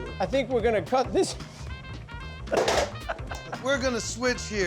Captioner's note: laughs